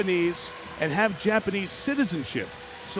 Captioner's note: audience cheering